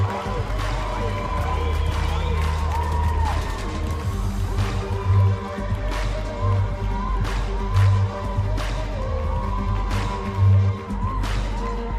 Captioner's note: cheers and applause